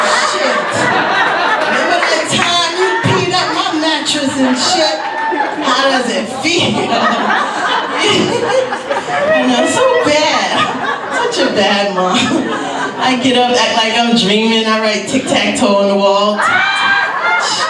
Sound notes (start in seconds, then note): 8.2 laughs